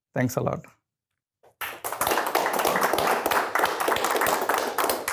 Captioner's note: audience clapping